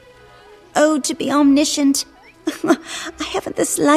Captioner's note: laugh